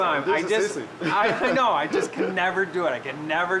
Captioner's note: laughter